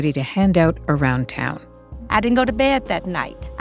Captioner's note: soundbite of archived recording